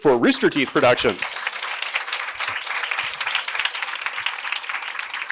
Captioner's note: audience applauding